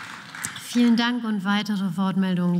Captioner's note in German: Beifall